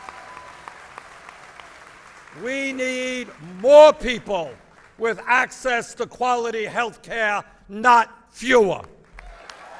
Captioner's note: applause